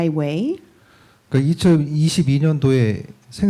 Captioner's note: speaking korean